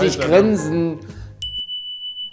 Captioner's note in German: Klingeln